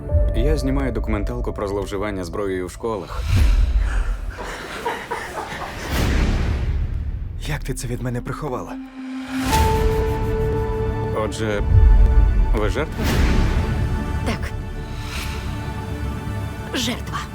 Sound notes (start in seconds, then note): 3.8 panting; 4.0 boys laughing